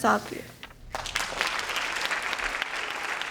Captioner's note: applause